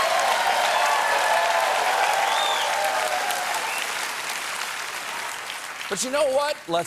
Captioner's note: cheers and applause